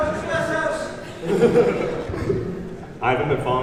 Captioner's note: laughing